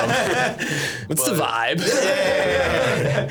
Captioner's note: laughing